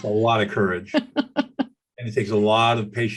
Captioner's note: laughing